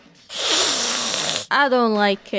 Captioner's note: hisssssssss